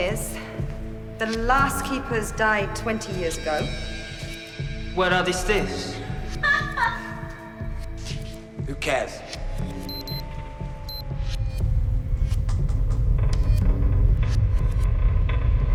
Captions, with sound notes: is the last keepers died 20 years ago. - Where are the stiffs? (laughing) - Who cares? (beeping) (ship creaking)